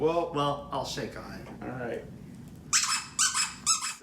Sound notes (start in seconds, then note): 2.7 dog toy squeaks for handshake emphasis